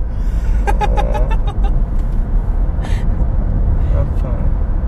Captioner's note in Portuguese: risos